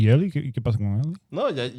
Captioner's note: speaking In Foreign Language